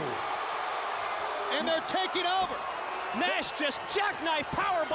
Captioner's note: crowd cheering